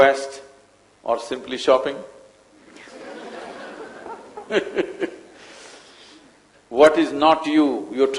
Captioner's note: laughter